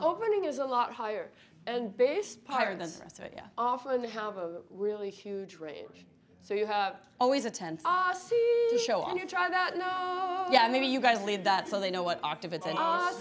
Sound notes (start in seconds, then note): 2.5 speaking faintly